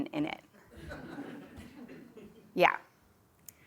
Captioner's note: laugh